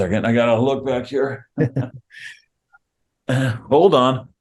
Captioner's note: chuckles